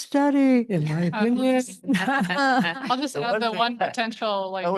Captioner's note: chuckles